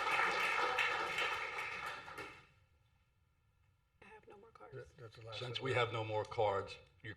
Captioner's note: applause